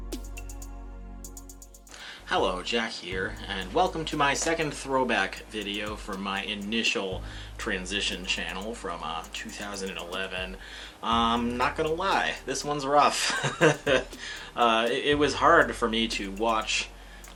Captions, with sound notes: Hello, Jack here, and welcome to my second throwback video from my initial transition channel from 2011. I'm not going to lie... this one's rough. *laughs* It was hard for me to watch